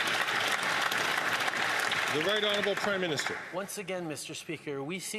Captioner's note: some Applause